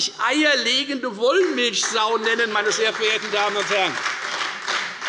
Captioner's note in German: Beifall bei der FDP und der SPD